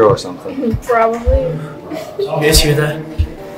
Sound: heartbeat slows

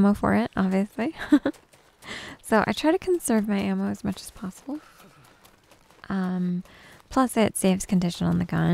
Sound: giggles

